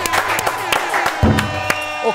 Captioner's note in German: Tröte, Applaus